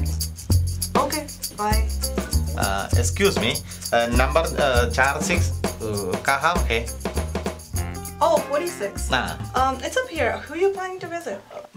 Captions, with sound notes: Okay. Bye. Excuse me, [struggling in Hindi] Number 4six... where is it? -Oh, 46. -Yeah. It's up here. Who're you planning to visit?